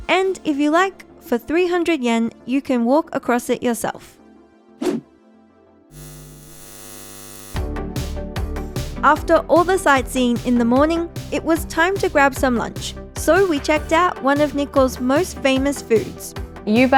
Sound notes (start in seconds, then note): 4.8 screen whooshing; 5.9 eyes buzzing; 7.9 lively music